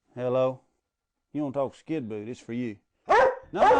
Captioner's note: Skidboot barks loud